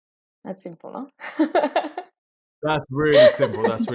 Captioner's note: laughing